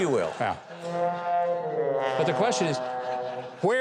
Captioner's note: audience chuckles